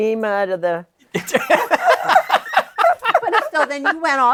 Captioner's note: laughter